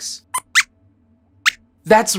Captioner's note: squeaks squeaks